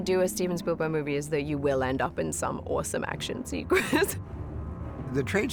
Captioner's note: chuckles